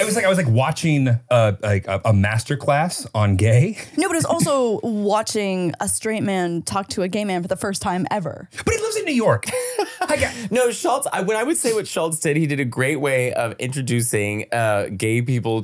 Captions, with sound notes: - It was like I was like watching like a Masterclass on gay. - No, but it was also watching a straight man talk to a gay man for the first time ever. - But he lives in New York. (laughing) - No, Schult, I would say what Schulz did, he did a great way of introducing gay people